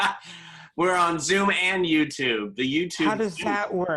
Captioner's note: laughter